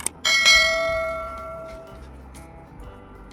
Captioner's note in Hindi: घंटी की आवाज़